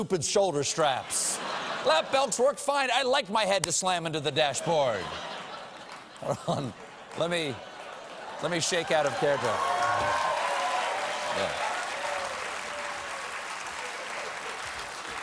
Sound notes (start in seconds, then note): 10.5 applause